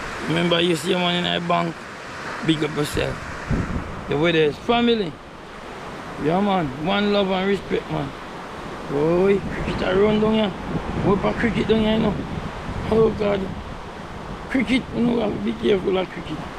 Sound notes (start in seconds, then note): none